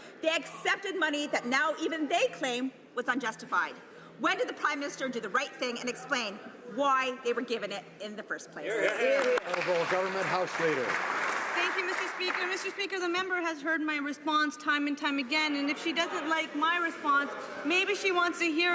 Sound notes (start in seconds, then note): 12.9 some Applause